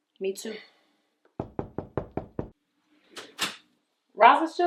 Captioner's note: knock on door